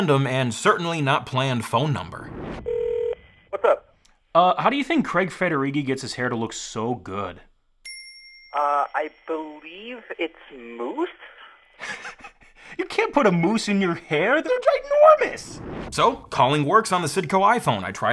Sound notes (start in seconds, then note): 2.6 phone ringing; 7.8 bell dings; 11.0 laughing